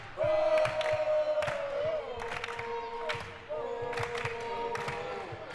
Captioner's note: audience chanting and clapping